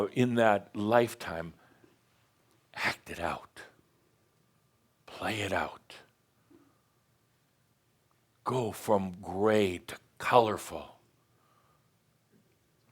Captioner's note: speaking dramatically